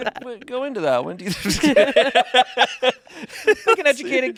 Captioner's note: everyone laughing